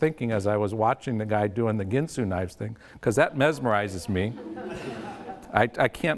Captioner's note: audience laughs